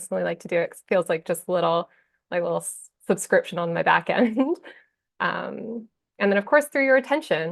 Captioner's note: chuckles